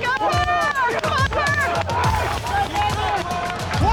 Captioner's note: indistinct cheering